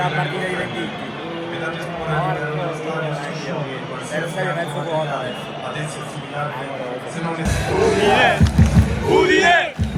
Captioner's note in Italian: Applauso